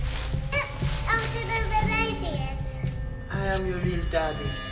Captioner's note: babbling